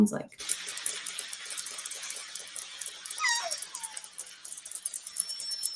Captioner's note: orca clicks and whistles